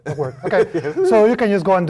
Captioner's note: laugh